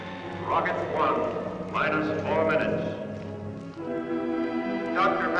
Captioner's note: loudspeaker